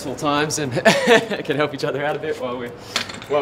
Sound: laughs

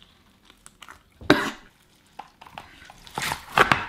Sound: coughs

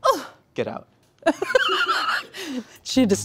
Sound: laughing

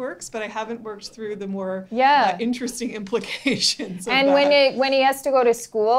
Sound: laughing

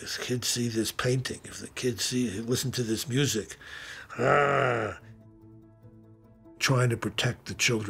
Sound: growling noise

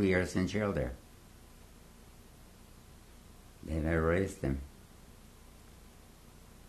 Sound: pauses for 3 seconds

